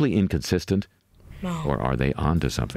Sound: voice-over

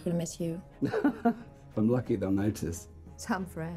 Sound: laughing

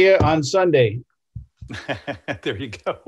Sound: laughs

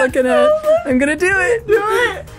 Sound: laughs

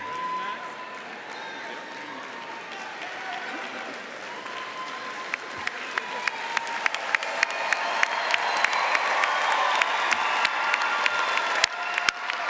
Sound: cheering & Applause

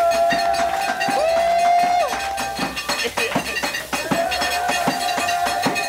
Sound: clapping and cheering; musical table clattering

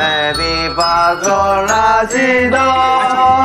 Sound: decibel is overpowering

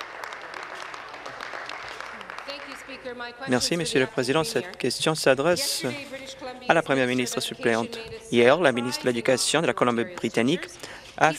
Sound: applause

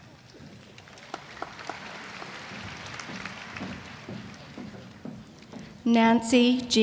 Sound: applause

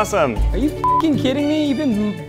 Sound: beep

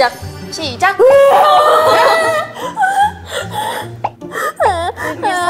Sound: crying; tears

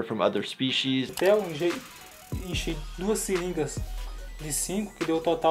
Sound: speaking foreign language

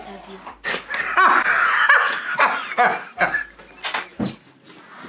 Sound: laughter

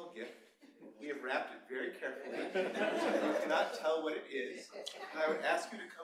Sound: laughter

